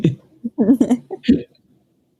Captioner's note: both laughing